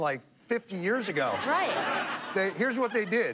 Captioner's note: laughter